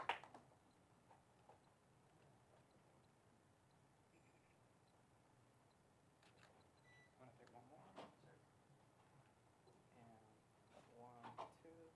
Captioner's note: applause